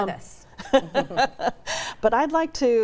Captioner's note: laughs